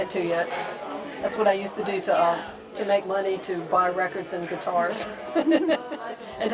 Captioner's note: laughs